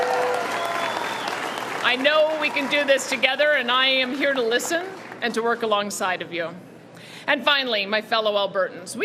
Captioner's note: cheering and Applause